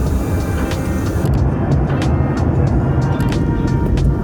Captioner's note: none